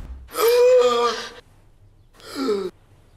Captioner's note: Gasps for breath